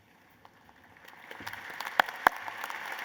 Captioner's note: applause